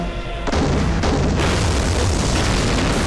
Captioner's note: Explosion